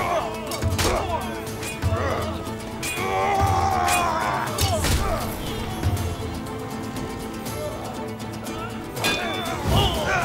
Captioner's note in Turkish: Müzik - Hareketli; Savaş sesleri; Müzik - Hareketli